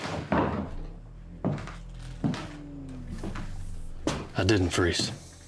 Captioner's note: footsteps thudding